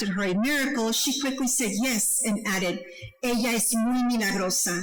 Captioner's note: speaking foreign language